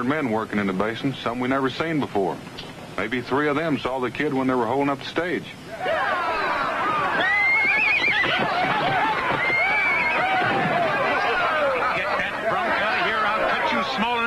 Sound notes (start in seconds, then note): 5.8 commotion